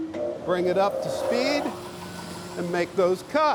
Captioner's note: machine vibrating